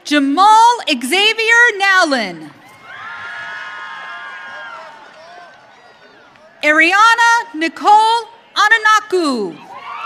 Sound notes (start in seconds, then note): 2.5 audience cheering